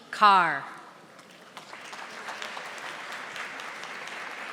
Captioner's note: audience applauding